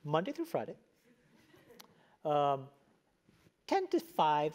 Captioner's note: laugh